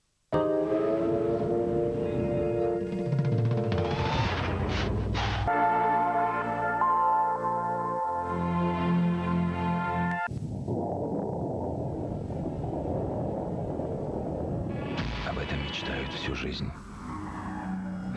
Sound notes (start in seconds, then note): 0.3 relaxing music; 10.2 the roar of the wind